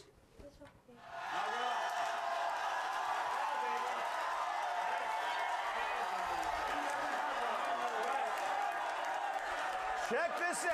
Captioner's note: audience cheers